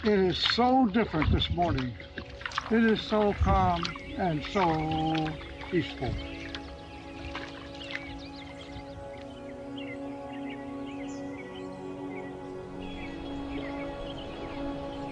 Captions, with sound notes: It is so different this morning. It is so calm and so peaceful. (calming music) (birds chirping)